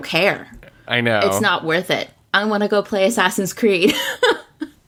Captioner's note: laughs